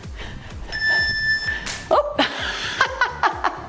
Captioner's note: timer beeps; laughs